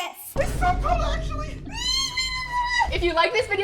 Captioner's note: squealing